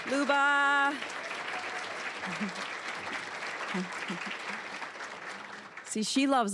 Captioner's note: applause